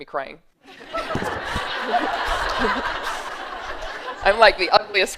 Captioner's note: laughter